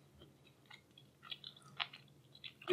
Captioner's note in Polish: żucie